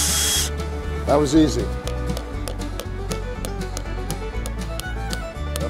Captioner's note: hammer tapping